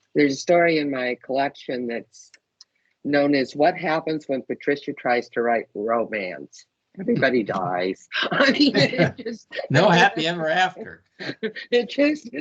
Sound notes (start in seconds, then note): 8.2 laughing